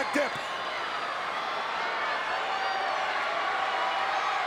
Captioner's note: crowd cheering